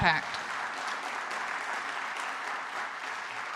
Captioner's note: applause